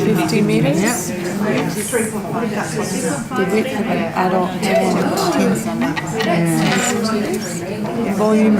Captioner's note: participant chatter